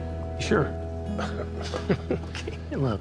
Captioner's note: laughter